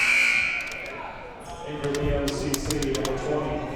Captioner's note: buzzer sounding